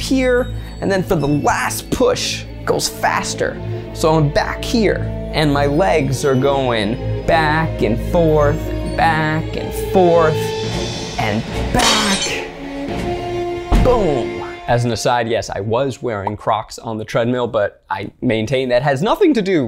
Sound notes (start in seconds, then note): 11.8 glass shatters